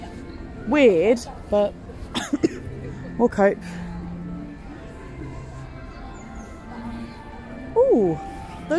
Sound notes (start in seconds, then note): 2.1 coughs